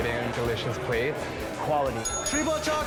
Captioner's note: bell dings